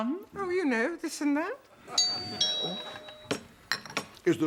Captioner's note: doorbell